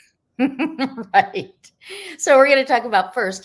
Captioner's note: chuckles